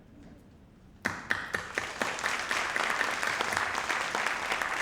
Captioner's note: audience applauding